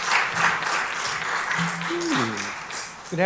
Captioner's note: applause